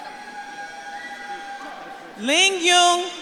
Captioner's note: audience cheers